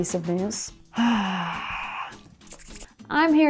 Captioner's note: sighing